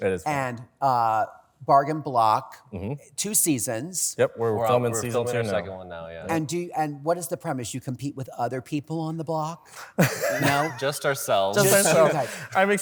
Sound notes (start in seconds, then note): 9.9 laughter